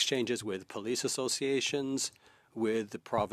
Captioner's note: speaking French